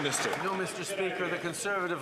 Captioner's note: some Applause